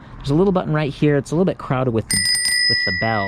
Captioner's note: bell dings